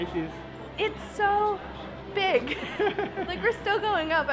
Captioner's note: laughs